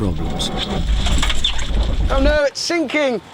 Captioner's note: engine stalls